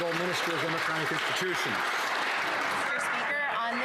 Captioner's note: some Applause